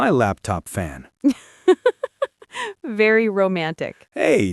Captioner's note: laughs